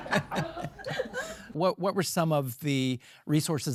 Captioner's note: audience laughing